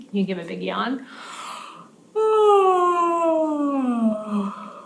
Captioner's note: yawning